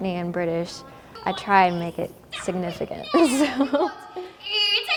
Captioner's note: laughing